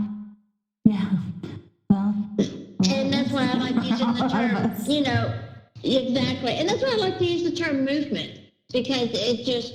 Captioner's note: laughter